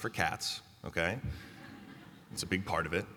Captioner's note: laughter